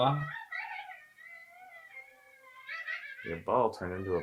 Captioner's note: child sobs